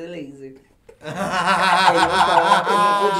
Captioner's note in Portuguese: risos